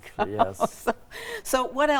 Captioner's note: laughing